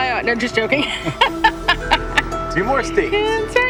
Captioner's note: laughing